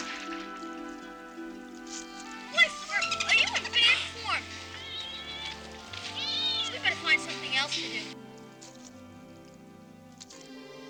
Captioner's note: chittering, splashing